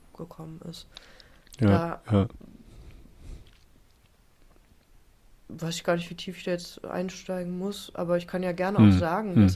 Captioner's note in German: schnauben